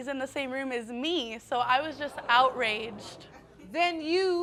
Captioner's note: audience exclaiming